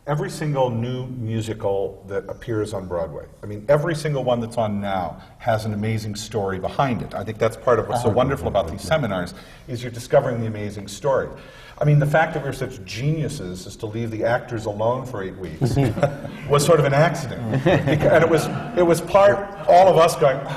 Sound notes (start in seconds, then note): 17.2 laughter from the panel; 17.2 laughter